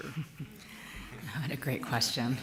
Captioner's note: chuckling